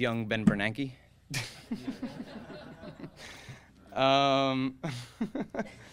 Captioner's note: audience laughing